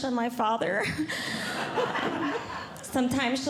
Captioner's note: audience Laughing